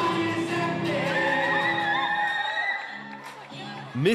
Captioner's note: screams